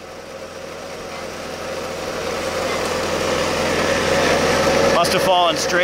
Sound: machines whirring

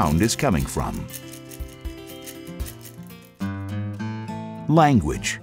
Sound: rattle

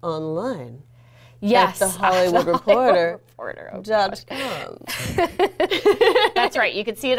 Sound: laughing

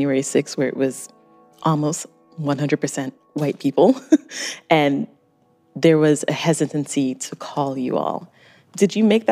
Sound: chuckles

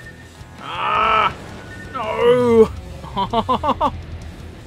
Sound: laughter

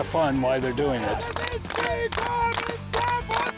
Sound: team cheers

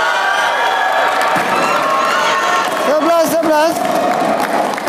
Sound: applause

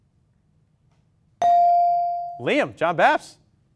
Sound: ding

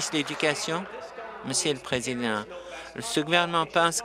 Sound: applause

